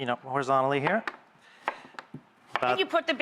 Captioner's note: chopping